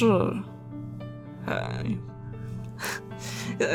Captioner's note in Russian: смешок